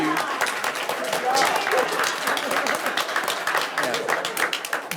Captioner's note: audience applauds